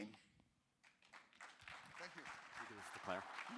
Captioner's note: applause